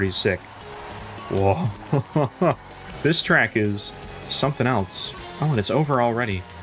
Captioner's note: laugh of relief